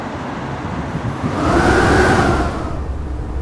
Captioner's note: wind howls